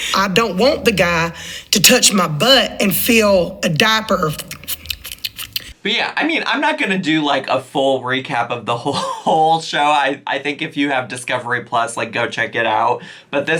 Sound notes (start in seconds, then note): 4.1 lips slurping